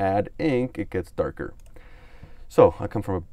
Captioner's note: clicks on mouse